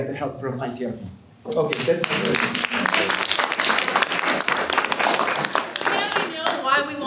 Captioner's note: applause